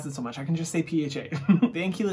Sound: giggles

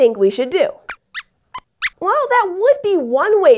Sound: squeaks squeaks

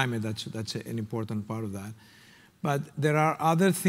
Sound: none

